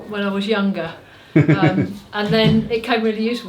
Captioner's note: laughter